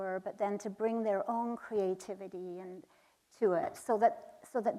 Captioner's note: none